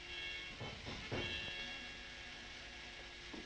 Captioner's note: guard knocking